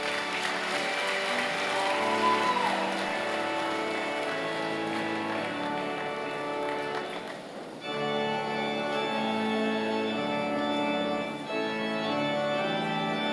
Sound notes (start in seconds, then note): 0.0 applause